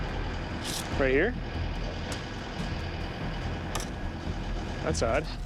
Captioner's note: machine running